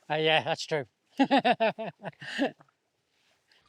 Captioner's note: laughing